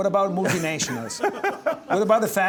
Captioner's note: laughs